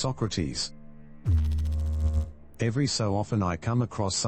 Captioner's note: electrical noise